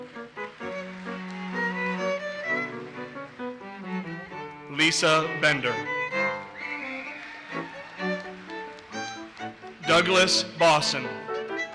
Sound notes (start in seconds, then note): 0.1 audience applauses; 6.2 audience cheers and applauses; 11.5 audience cheers and applauses